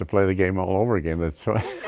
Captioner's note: laughs